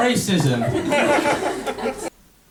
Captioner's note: laughter